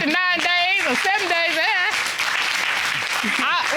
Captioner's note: audience applauding